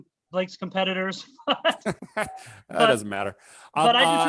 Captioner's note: laughter